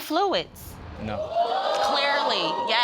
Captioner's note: audience exclaiming